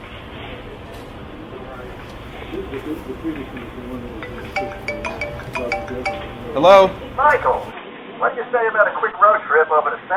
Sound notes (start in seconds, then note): 1.8 group chattering; 4.0 phone ringing